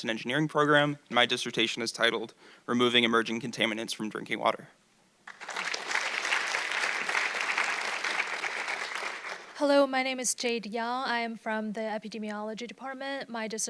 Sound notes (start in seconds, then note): 5.2 audience clapping